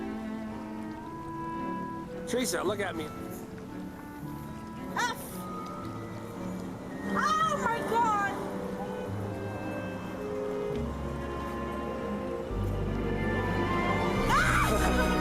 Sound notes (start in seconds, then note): 4.6 scoffs; 14.2 romantic music continues